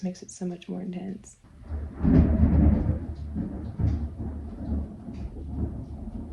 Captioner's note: thunder